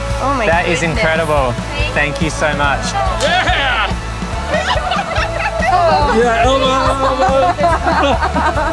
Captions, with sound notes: - That is incredible. Thank you so much. - Yeah. (group laughs) - Elbow, elbow.